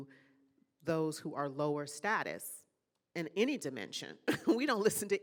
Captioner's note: laughing